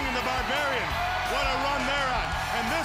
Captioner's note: crowd cheering